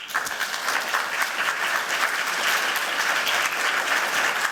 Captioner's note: applause